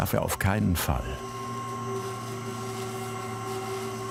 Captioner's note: whirring